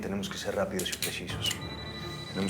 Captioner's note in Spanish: suena el celular